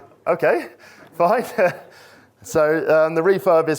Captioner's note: chuckles erupt